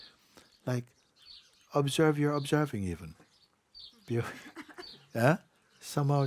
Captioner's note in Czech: smích